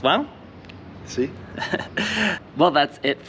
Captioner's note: giggles